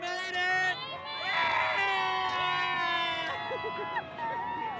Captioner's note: cheering